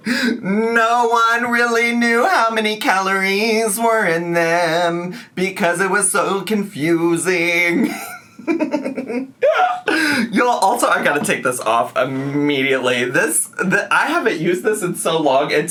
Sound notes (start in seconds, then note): 7.7 laughs